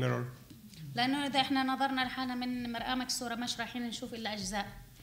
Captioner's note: speaking arabic